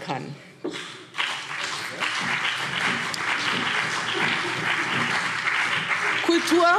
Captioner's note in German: Beifall BÜNDNIS 90/DIE GRÜNEN und vereinzelt CDU